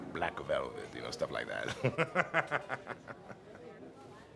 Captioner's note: laughs